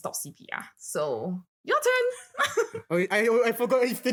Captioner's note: laughs